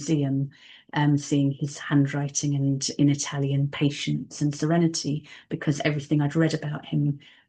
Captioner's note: in Italian